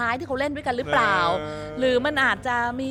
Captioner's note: crying